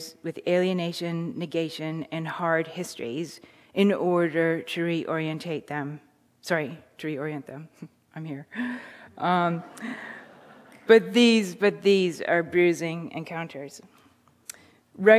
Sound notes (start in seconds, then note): 7.6 chuckles; 9.6 audience chuckling